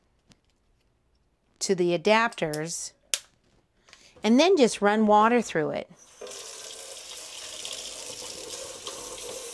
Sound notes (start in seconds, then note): 6.0 water running